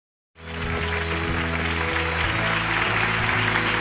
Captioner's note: applause